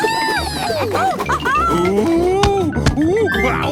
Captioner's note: laughing